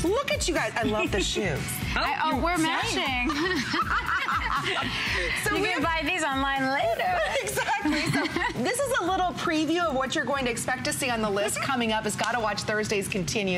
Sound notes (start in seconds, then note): 3.2 laughter